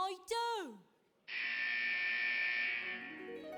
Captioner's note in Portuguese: alarm blaring; mystical music